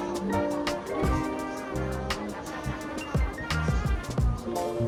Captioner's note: haha